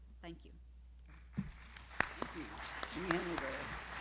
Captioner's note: applause